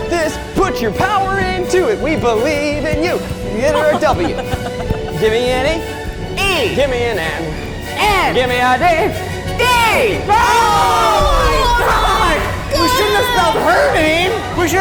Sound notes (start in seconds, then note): 10.2 everyone exclaims